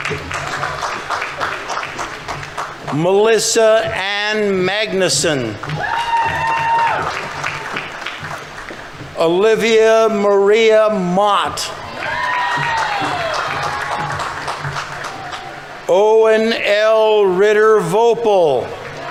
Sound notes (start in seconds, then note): 0.0 audience applauding; 4.8 audience members cheering; 5.3 audience applauding; 11.6 audience members cheering; 11.8 audience applauding; 18.4 audience applauding; 18.8 audience members cheering